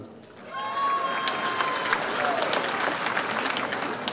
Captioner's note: audience applauds